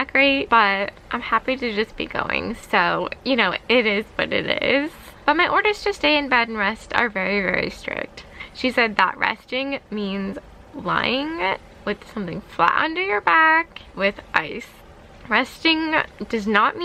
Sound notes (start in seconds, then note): none